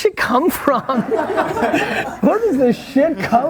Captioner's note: laughing